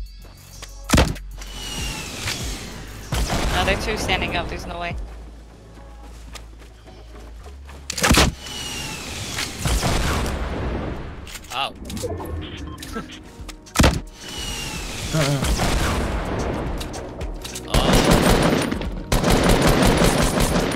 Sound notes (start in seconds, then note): 12.7 chuckles; 13.8 RPG firing; 15.4 explosion; 17.7 gunfire; 20.5 energetic music